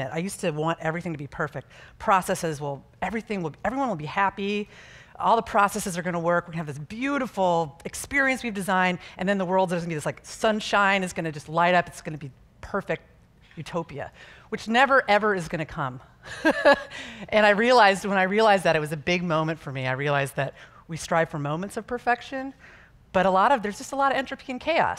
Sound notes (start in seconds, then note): 16.3 chuckling